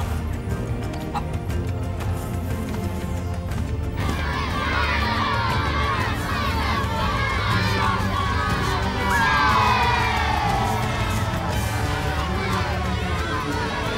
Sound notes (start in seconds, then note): 0.1 hen clucks; 4.2 crowd cheering; 9.4 crowd cheers